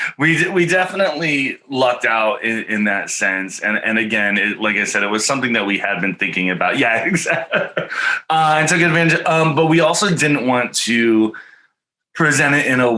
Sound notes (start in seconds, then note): 5.6 chuckles happily